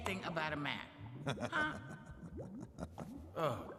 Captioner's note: Zeebad laughs